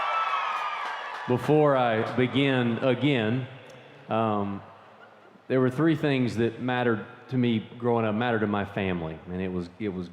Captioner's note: cheers and applause